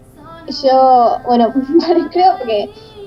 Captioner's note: giggles